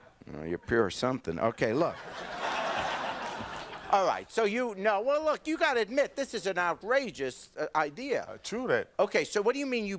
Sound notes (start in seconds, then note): 1.8 audience laughing